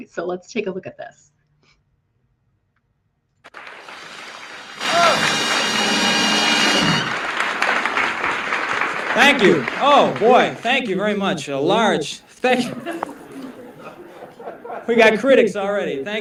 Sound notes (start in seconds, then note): 8.3 applause; 12.4 laughter